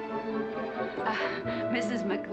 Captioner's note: nervous laugh